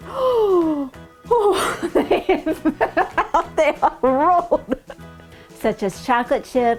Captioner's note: laughing